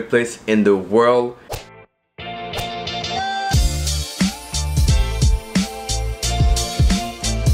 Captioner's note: golf ball whips; upbeat dreamy music